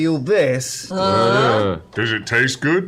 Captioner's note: affirmative grunt